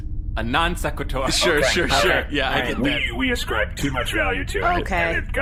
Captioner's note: laughing